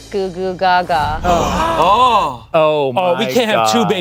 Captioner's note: everyone gasps